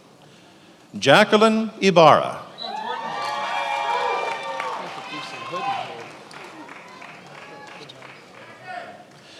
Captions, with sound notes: Jacquelyn Ybarra. (attendees applauding)